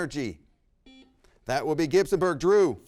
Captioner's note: buzzer rings